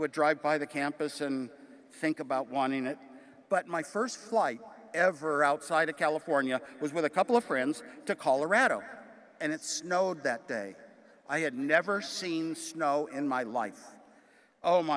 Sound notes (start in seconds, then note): none